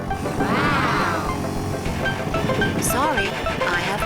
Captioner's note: children laughing